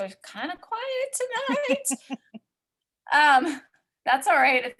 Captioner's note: laughs